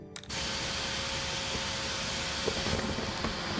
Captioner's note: loud buzzing